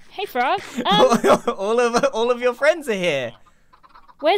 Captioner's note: laughs